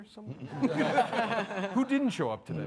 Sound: all laughing

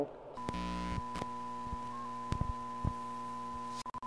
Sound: static sound

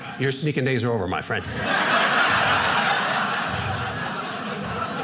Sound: audience laughing

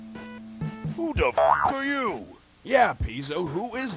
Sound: boing

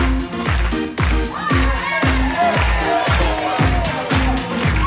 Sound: audience cheers

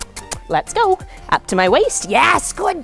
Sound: kissing sounds

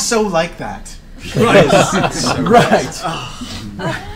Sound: all laugh

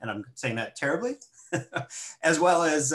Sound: laughs

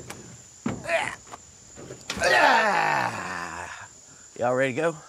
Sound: Jeff grunts

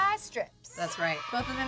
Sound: cheering

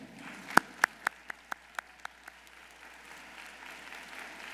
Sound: audience applauding

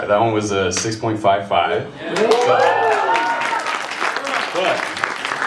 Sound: cheers, applause

